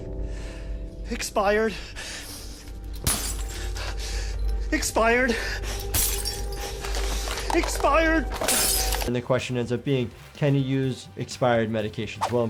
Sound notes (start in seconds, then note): 0.6 sighs; 2.2 vial shatters; 5.8 vial shatters